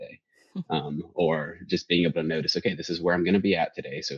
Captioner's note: laughs